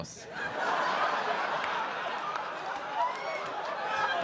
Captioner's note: audience laughing